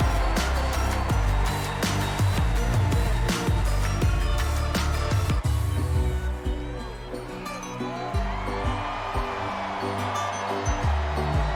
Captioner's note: cheers and applause